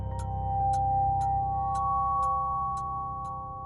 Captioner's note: clock ticking